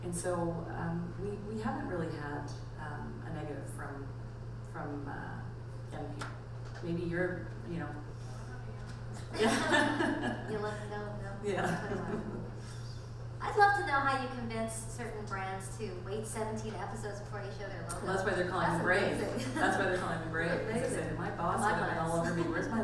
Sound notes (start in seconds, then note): 11.4 laughing